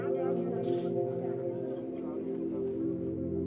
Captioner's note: indistinct chatter